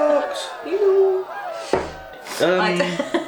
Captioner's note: cheerin